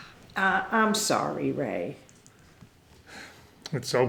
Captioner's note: debra sighs